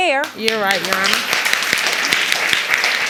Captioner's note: audience applauding